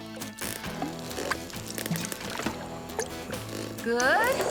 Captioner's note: hammering; water Dripping